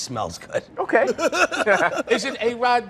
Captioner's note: laughter